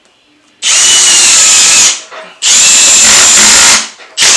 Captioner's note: drill buzzes